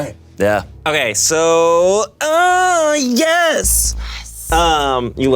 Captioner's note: Koda cheering